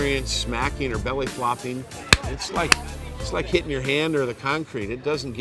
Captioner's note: smack